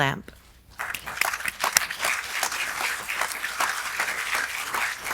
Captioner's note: audience applauds